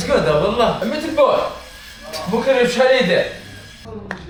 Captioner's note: Arabic